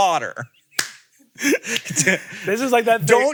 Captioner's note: laughs